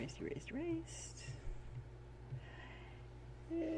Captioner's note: muttered